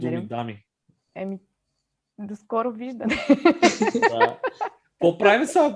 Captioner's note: laugh